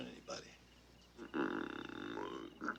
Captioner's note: croaking